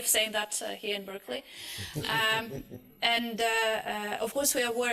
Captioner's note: laughter